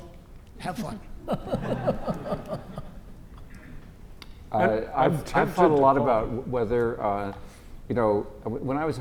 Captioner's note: laugh